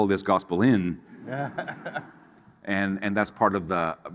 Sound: people laughing

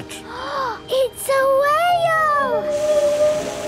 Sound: gasps; whale calling

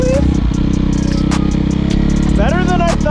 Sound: engine revving

